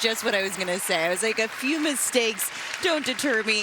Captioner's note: cheers and applause